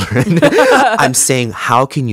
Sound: both laughing

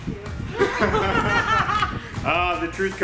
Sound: laughing

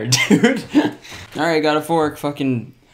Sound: laughing

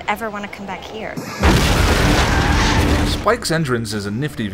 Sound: crash

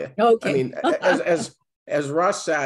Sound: laughs

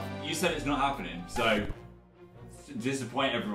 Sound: record scratches

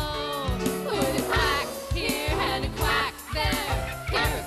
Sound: quacking

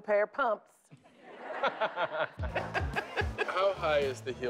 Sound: laughter

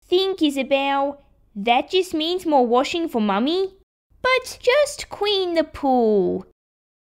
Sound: none

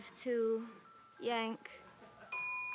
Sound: elevator ding

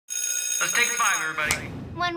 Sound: bell rings

